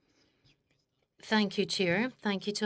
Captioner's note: speaking French